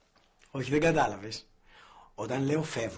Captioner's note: none